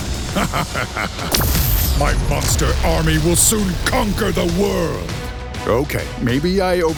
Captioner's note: laughs